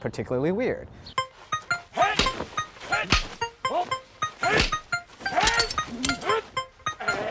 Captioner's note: fighting noises; upbeat electronic music